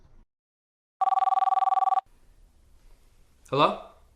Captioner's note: phone ringing